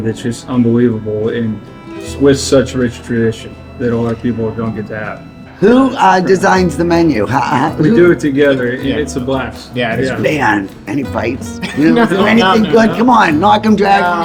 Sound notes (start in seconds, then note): 7.3 laughing; 11.5 laughing